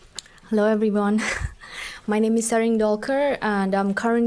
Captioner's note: laughing